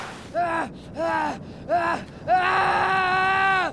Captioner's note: Ash screams